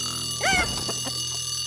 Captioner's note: alarm clock ringing